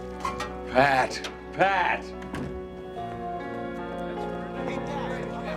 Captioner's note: door clatters; reporters chattering; melancholy music